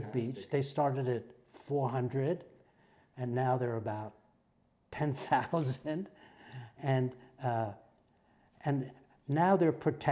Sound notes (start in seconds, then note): 6.3 laugh